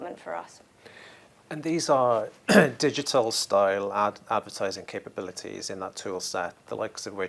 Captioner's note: cough